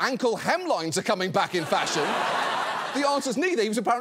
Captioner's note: audience laughs